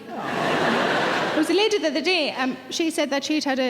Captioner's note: laughing